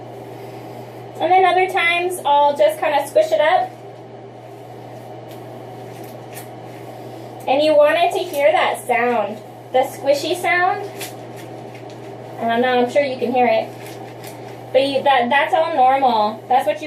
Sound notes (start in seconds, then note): 5.8 thick, squishing sound